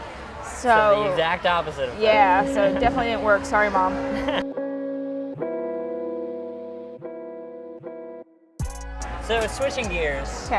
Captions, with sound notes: - So the exact opposite of that. - Yeah, so definitely didn't work. Sorry mom. - (laughs) (loud horn music) So switching gears,